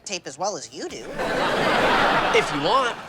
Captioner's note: audience laughing